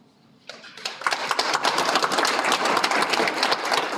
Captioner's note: Aplodit